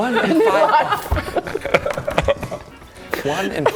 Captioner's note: over the line laughter